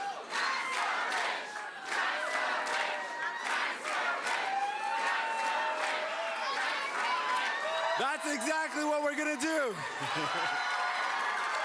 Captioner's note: cheering